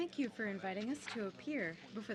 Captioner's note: speaking French